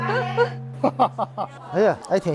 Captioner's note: hahahaha